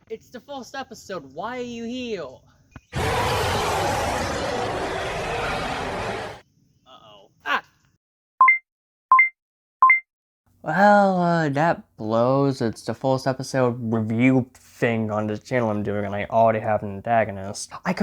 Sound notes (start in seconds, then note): 2.9 monstrous yelling; 8.4 beep beep beep